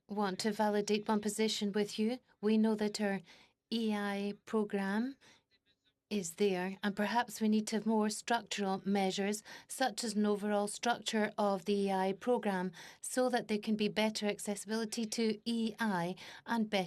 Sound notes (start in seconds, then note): 3.8 speaking French